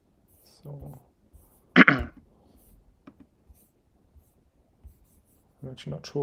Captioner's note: clearing throat